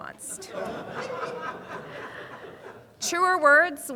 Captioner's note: audience laughing